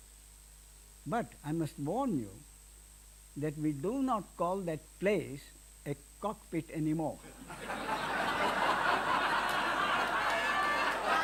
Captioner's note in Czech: smích